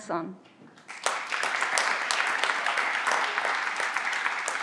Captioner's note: everyone claps